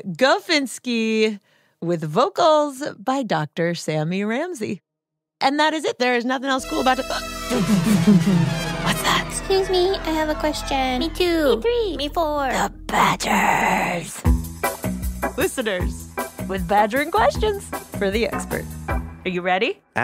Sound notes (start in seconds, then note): 8.9 whispered; 12.9 whispered, but somehow loudly; 14.2 theme song plays underneath the questions